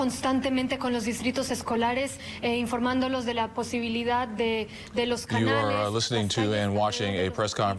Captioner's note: speaking Spanish